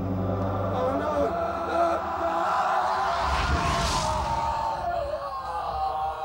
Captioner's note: screaming